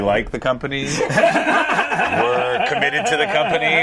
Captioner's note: everyone laughs